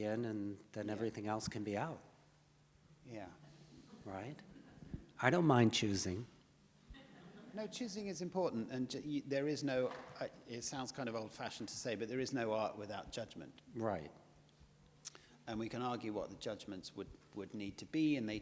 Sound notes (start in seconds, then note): 6.9 audience laughs